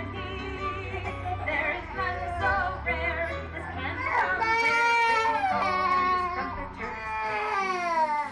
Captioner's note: laughing